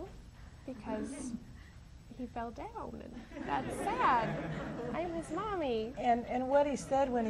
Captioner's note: audience laughs